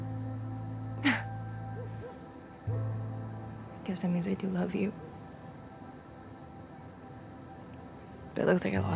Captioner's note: sobs